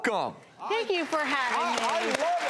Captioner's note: applauding